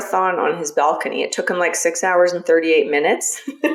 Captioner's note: laughs